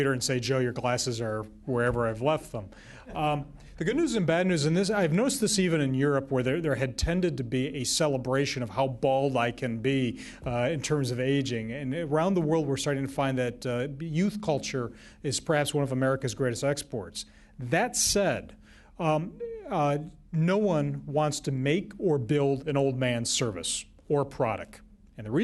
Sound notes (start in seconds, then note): 3.0 laughter